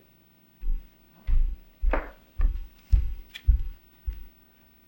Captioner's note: footsteps thumping